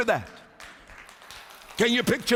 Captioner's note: applause